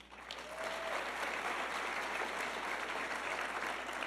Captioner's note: audience clapping